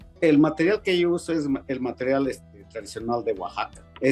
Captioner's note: speaking Spanish